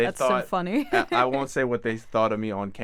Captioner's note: chuckles